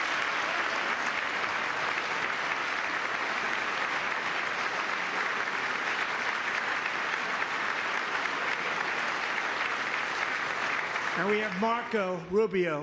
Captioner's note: applause